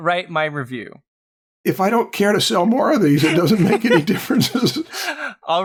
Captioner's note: chuckles